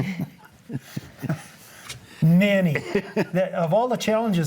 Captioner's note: laugh